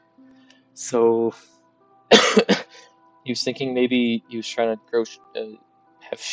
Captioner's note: coughs